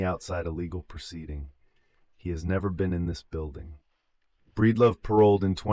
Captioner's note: exhale